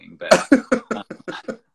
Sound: laughs

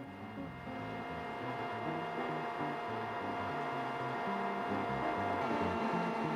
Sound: machine whirring

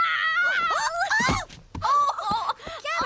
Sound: thump!

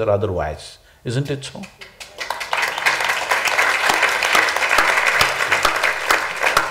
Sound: applause

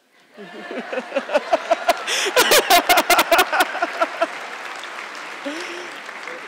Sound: audience clapping; laughing

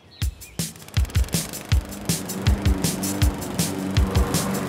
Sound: upbeat music; lawnmower rumbling

